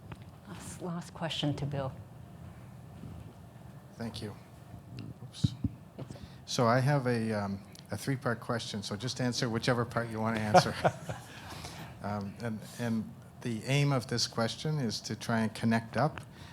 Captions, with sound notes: - Last question to Bill. - Thank you. So I have a three-part question so just answer whichever part you wanna answer. (laughing) The aim of this question is to try and connect up